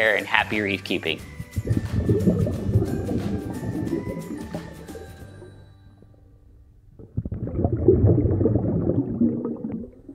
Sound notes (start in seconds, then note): 1.5 water bubbling